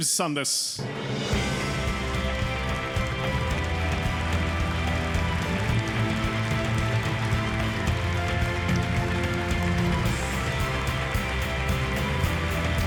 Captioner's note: applause